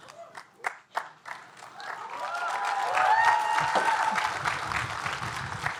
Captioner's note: audience cheering and applauding